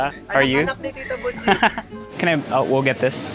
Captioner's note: chuckles